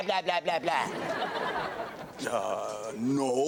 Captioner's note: audience laughs